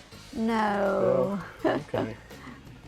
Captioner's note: laughs